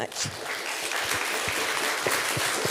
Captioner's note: applause